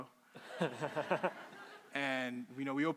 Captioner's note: crowd laughing